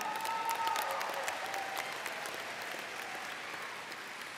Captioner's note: audience cheers